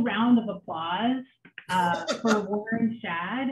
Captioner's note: laughs